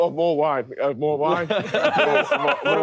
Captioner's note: laughing